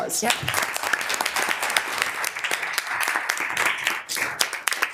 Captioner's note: all clapping